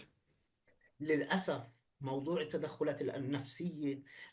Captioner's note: speaking arabic